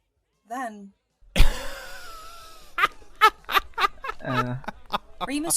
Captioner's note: Sirius starts to laugh